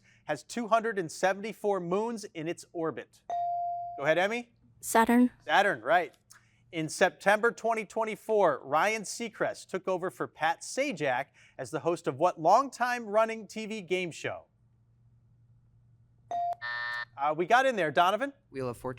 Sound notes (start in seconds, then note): 3.5 bell chiming; 16.6 buzzer sounding; 16.6 bell chiming